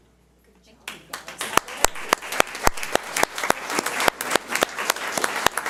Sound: audience applauds

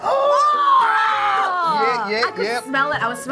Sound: loud gasps of excitement

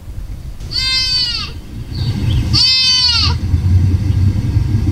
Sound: fawn wailing

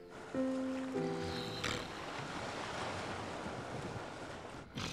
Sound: snoring

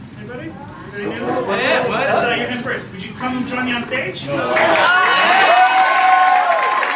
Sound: applause

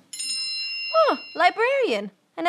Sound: bell noise

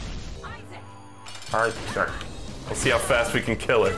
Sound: in a goofy voice

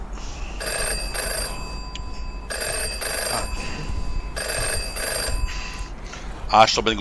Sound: phone rings

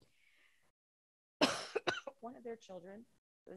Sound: coughs

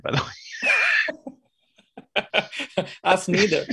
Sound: laughter

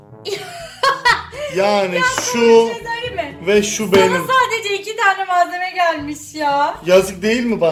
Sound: laughs

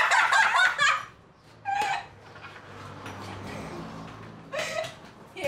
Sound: girls talking and laughing

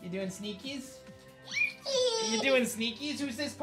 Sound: giggles

